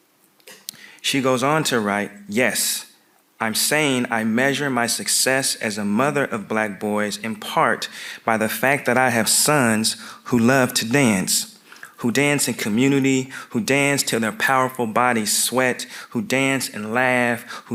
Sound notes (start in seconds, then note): none